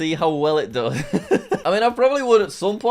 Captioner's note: laughs